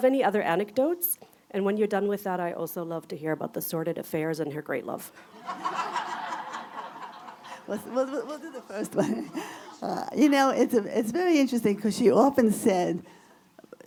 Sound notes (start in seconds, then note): 5.2 audience laughter